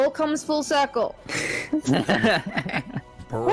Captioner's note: laughs